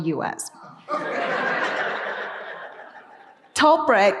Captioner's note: audience laughing